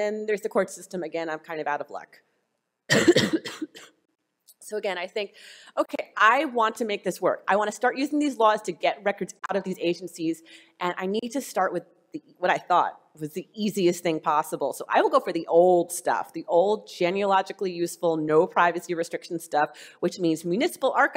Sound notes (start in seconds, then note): 2.8 coughing